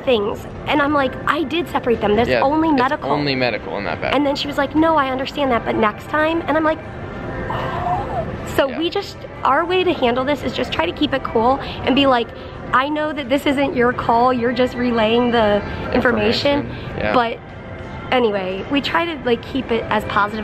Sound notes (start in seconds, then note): 7.4 exasperated noise